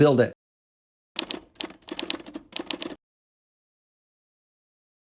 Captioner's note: keys clacking